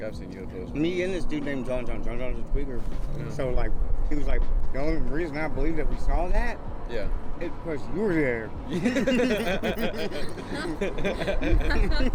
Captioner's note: laughing